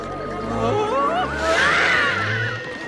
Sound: screaming

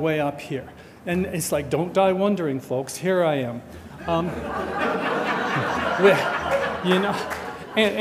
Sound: audience laughter

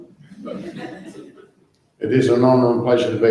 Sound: audience laughs

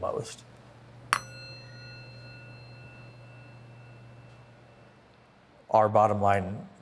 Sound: metal dings

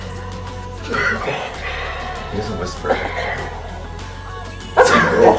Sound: darth vader voice

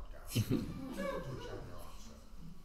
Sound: all laugh

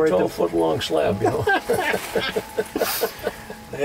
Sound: laughter

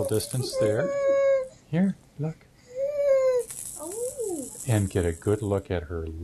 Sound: crying

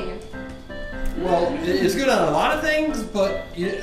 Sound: voiceover

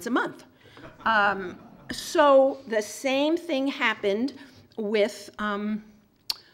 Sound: laugh

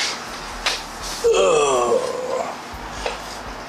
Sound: grunt

